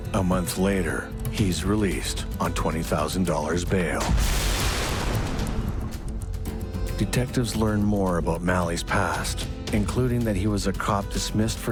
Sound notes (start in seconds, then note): 4.0 thunderous explosion; 4.1 glass crashing